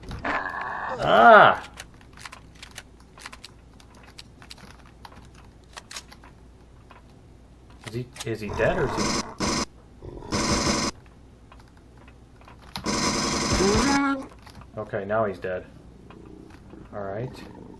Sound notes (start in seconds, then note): 1.5 weapons clicking; 8.3 pulse rifle; 12.5 bat dying